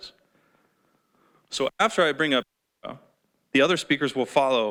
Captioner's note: voice cuts out